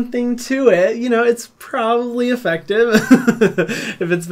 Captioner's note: chuckles